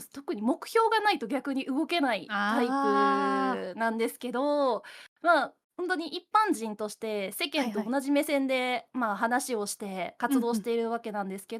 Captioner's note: laughs